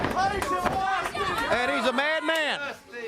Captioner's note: crowd chatter